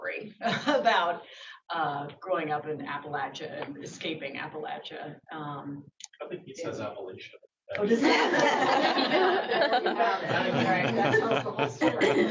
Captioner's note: laughter